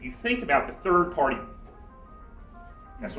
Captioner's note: phone ringing